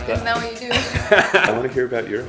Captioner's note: laughing